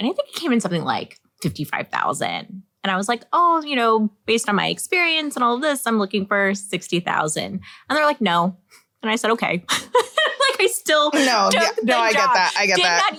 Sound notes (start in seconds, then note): 11.1 laughs